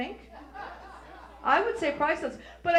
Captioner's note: audience laughs